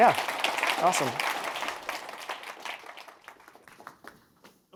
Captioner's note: applause